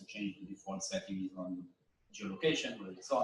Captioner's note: none